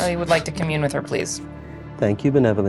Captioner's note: applauding